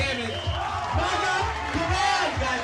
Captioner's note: cheering and shouting